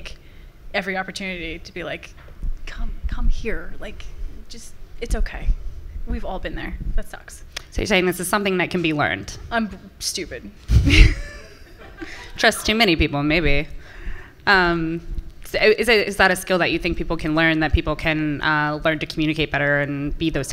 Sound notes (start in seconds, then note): 10.8 laughs; 11.4 laughter from the audience